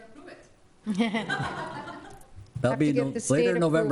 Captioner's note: audience laughs